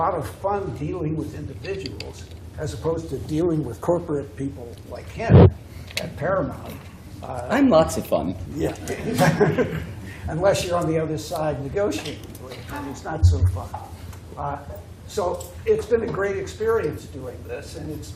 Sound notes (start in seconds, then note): 8.9 laughter